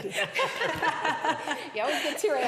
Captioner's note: laughing